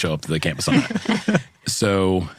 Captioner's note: laughing